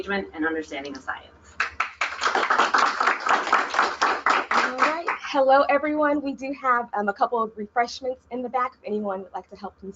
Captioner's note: applause